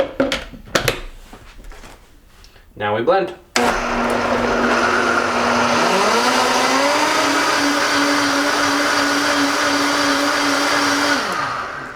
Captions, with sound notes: Now, we blend. (whirring)